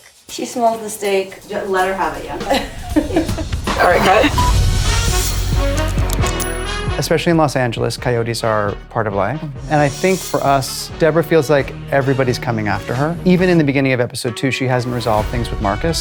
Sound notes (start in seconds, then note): 1.3 jazz music plays; 2.0 woman laughs; 4.0 quick beep